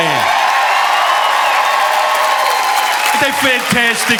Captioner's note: audience cheering and applauding